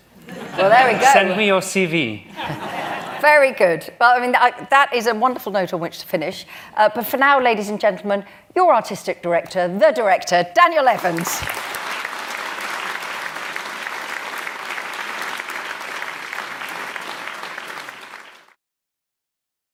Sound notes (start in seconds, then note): 14.9 applause